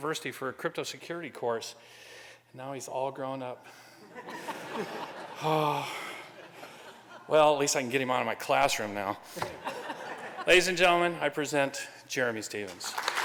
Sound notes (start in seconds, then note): 4.0 laughter; 5.4 sighs; 9.4 laughter